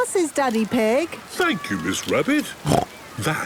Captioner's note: snorts